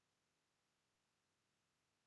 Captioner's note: none